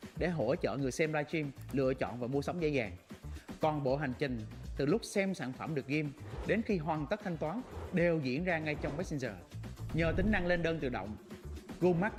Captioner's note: speaking another language